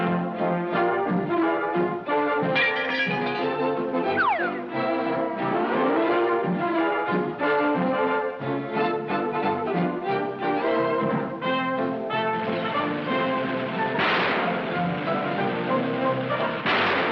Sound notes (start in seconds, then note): 2.7 can clangs; 12.7 engine rumbling; 14.2 engine backfires